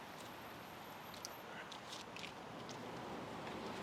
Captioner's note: paper rustling